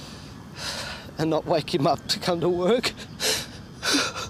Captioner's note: sighs; crying